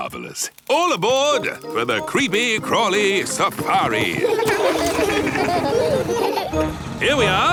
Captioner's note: laughing